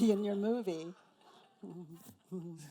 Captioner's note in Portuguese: risos da plateia